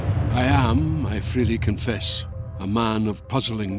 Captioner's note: Voz en off